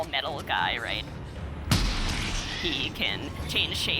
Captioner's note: gunshot